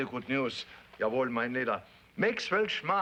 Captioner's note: speaks foreign language